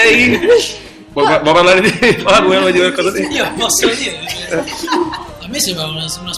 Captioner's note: laugh